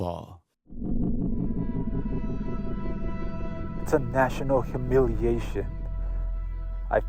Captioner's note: soundbite of archived recording